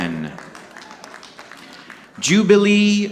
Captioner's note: audience clapping